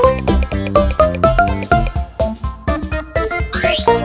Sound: none

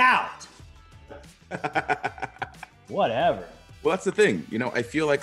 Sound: laugh

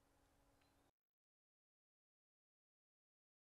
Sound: bird chirps

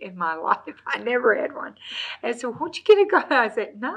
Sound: laughs

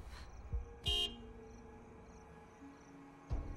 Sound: HONKlNG

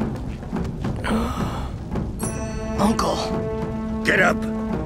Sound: gasps

